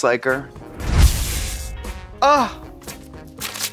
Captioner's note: electricity sparks